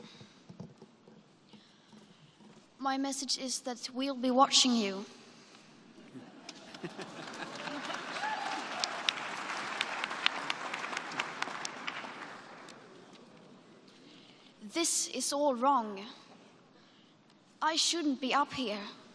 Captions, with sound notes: My message is that "we will be watching you" (laughter) (applause) This is all wrong I shouldn't be up here